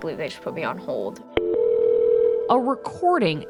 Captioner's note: phone ringing